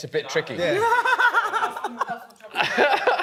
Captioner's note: laughs